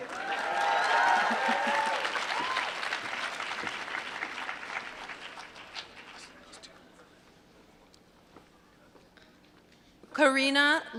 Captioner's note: applause